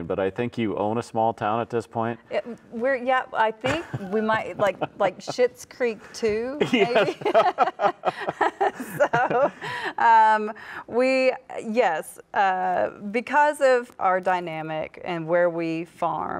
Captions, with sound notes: but I think you own a small town at this point. - Yeah, I think we might, like, Schitt's Creek Two maybe? (laughs) - Yeah. (both laugh) - So, yes, because of our dynamic and where we farm